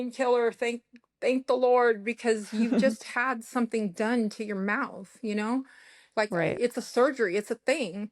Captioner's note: laughter